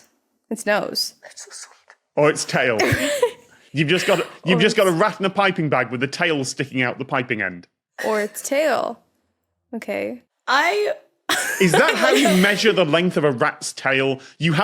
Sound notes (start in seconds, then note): 1.4 whispering; 3.2 wheezes; 11.3 laughs